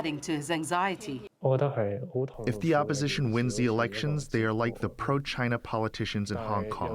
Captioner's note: through translator